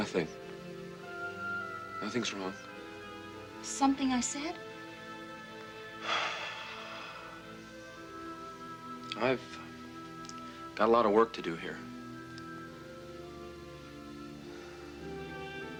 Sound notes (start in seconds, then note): 6.0 Casey sighs